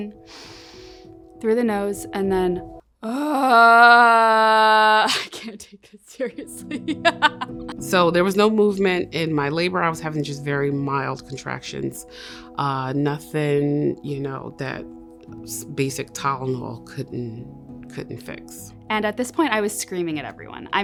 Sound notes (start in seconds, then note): 0.2 inhales; 3.0 moaning; 6.6 laughs